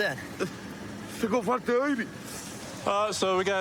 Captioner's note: speaking spanish